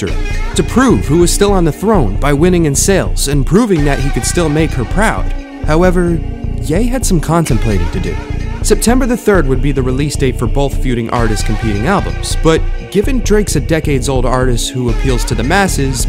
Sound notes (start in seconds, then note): none